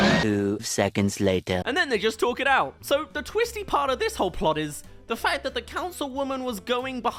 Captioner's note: roars